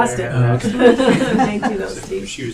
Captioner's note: laughing